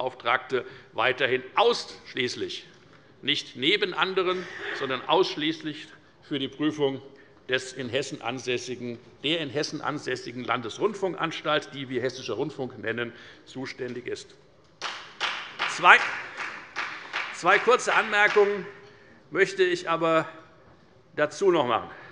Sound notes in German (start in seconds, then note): 14.8 Beifall bei der FDP